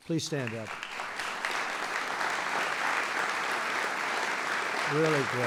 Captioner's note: applause